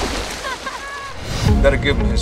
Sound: splashing; laughing

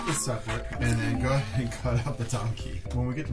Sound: chuckles

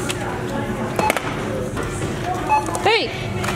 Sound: scanner beeps

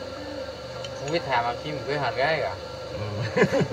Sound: speaking in Thai; laughter

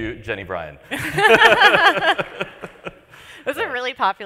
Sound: laughter

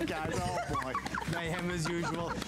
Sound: laughter

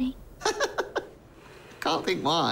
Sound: nervous laughter

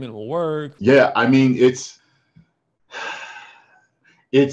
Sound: sighs

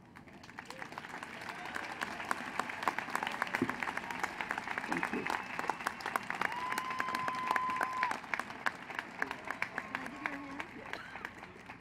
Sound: applause

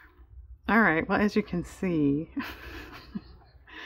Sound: laughs

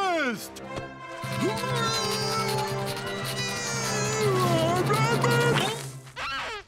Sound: grunting

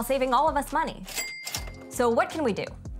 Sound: cash register chiming

